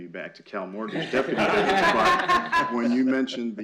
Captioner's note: laughter